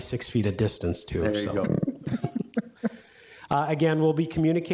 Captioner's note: laughs